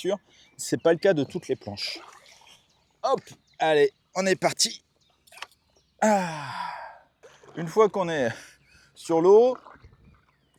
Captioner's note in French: soupir